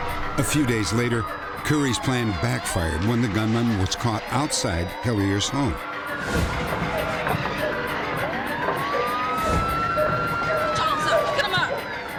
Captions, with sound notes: A few days later, Koury's plan backfired when the gunman was caught outside Hilliard's home. [sirens] Time's up. Put them up.